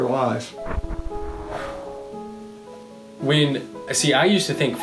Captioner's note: cannon shots exploding